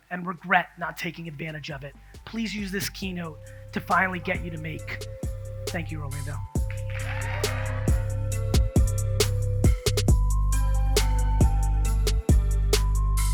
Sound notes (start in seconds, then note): 6.6 audience cheers; 9.1 upbeat music